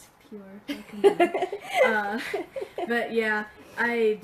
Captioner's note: laughing